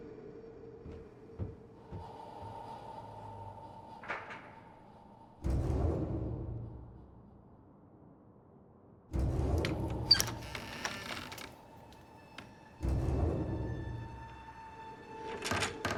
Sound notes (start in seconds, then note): 0.8 footsteps moving away; 5.3 door opening; 9.0 dramatic music